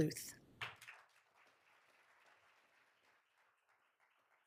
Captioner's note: all applauding